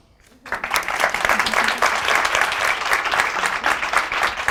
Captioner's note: audience applauds